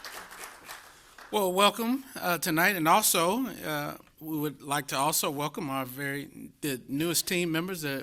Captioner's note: applause